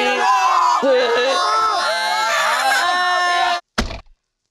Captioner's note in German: Geschrei